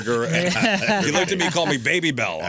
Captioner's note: laughing